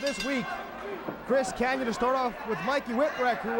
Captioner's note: bell ringing